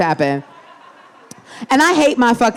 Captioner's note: audience laughing